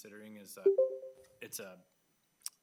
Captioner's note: electronic beeps